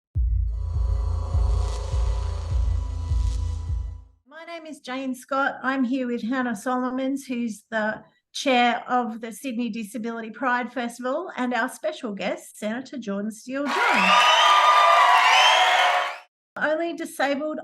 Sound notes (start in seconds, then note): 13.6 cheers